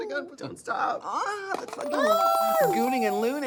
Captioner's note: moaning